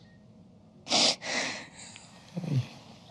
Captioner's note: sobbing